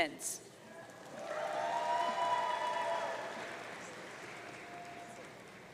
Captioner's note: audience cheering